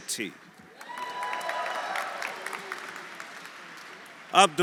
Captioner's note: audience applauding; audience cheering